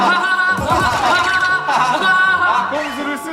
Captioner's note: hahahaha